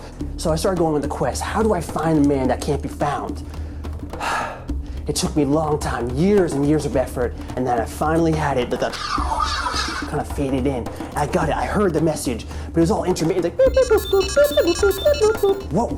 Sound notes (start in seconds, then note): 4.2 sigh; 8.9 whooshing